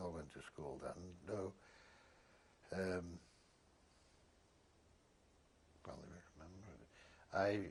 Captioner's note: pauses for 3 seconds